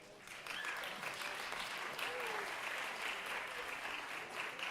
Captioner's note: audience applauding